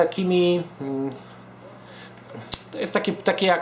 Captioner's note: stutters